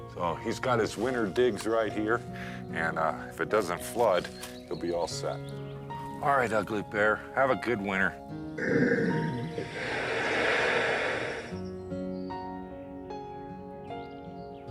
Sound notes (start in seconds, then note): 8.6 Ugly Bear grunts and huffs; 10.9 gentle music continues